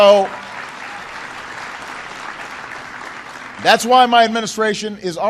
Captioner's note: applause